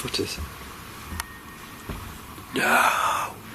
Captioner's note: whistling